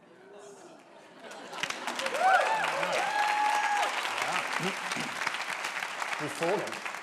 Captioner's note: audience applauds